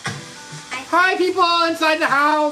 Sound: door slams

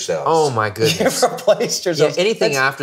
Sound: laughs

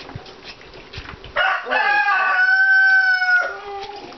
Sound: crowing

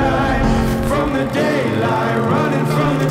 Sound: projector sounds

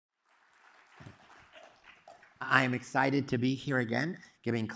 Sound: applause

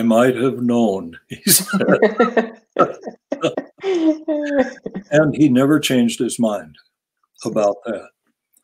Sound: laugh

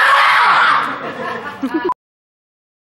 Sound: laughter

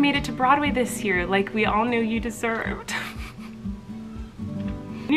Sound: crying

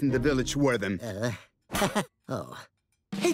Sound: laughs embarrassed

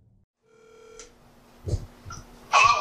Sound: phone rings

